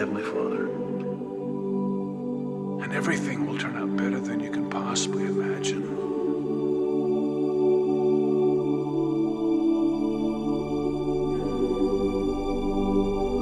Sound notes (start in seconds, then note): none